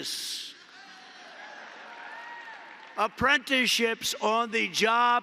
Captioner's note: applause